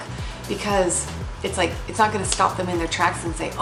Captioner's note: smacking palm